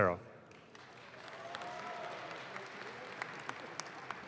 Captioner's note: audience claps